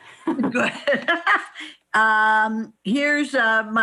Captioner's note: laughs